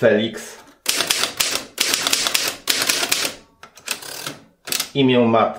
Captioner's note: typewriter sound